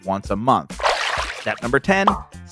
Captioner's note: water splashes